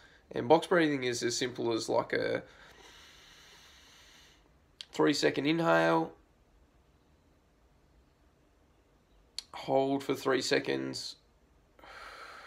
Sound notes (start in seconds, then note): 2.5 inhaling; 11.8 exhaling